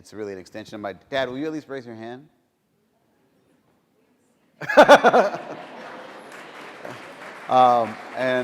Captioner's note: applause